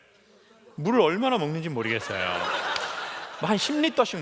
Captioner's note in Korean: 웃음